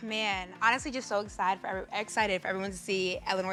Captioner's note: sighs